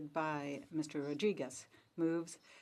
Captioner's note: speaking French